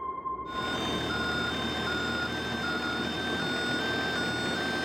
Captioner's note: vehicle beeping